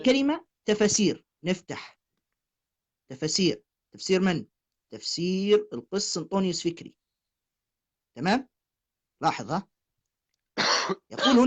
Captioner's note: coughing